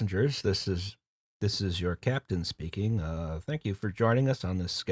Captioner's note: pilot voice